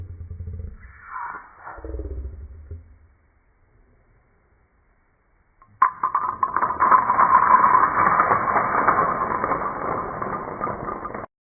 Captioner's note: talking in slow motion